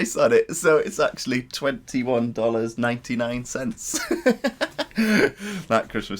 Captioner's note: laughter